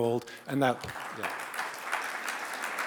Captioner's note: audience applauds